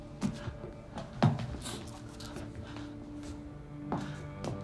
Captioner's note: feet shuffling; low tense music